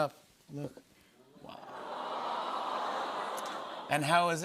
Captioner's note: audience "Awws"